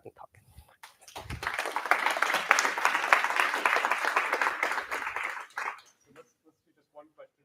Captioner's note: applause